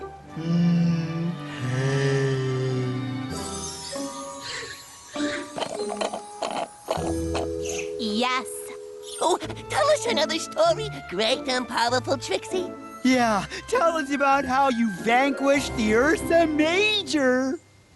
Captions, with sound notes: Mmm. Hay. [ Slurp! Slurp! Slurp! ] Yes? Oh, tell us another story, Great and Powerful Trixie. Yeah, tell us about how you vanquished the ursa major.